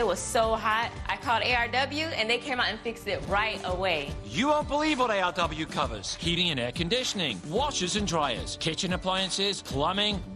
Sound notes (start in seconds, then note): none